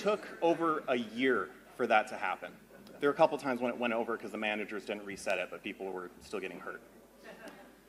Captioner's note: laughter